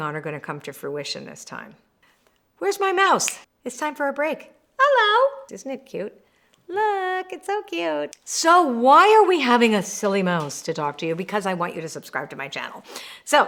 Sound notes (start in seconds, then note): 3.2 snaps fingers